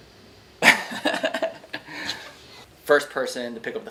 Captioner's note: laughing